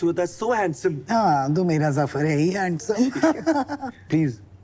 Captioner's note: laughter